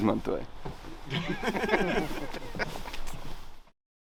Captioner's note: laughing